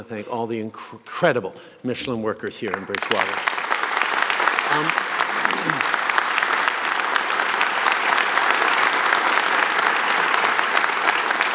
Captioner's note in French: Applaudissements